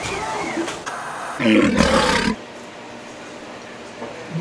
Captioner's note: tiger roars